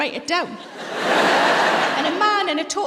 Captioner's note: laughter